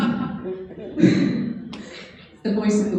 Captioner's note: laughing